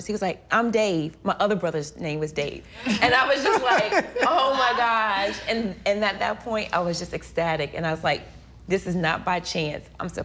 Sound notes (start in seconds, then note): 3.4 all laughs